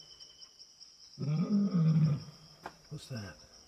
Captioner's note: animal grunting